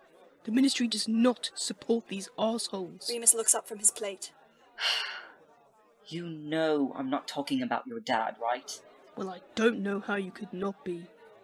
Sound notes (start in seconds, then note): 4.8 sighs